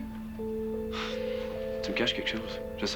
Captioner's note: Soupir